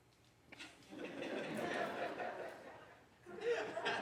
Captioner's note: audience laughs